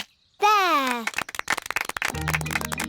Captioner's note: applause